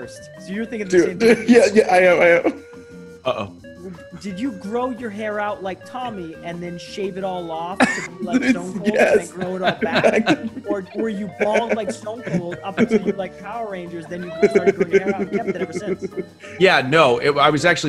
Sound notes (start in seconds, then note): 0.9 laugh; 7.8 laugh